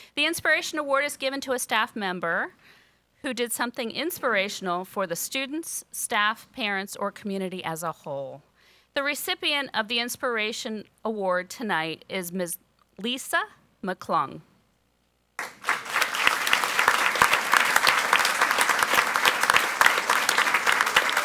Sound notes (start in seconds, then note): 15.4 audience applauds